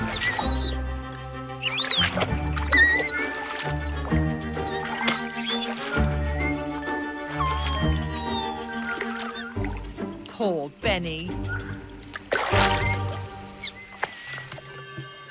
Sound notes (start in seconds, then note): 0.2 bright upbeat music; 1.7 water rustling; 4.6 Beni squeaking; 11.6 water splashes